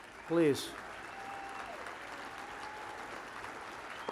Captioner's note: applause